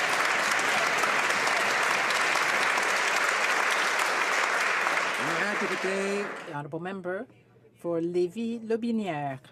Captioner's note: some Applause